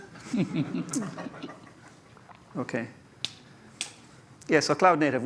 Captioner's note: laughter